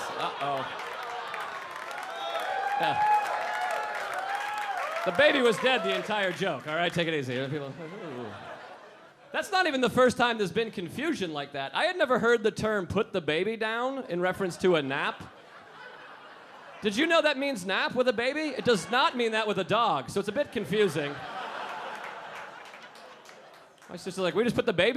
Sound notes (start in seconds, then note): 0.0 audience laughing and booing; 7.3 mumbling; 14.3 audience laughing; 20.2 audience laughing